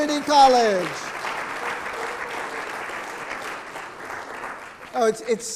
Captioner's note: audience clapping